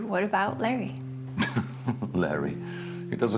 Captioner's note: Frank laughing